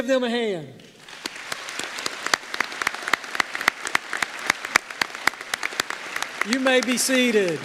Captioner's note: applause